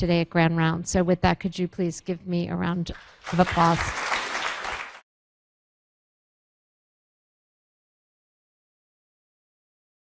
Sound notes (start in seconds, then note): 3.2 crowd applauding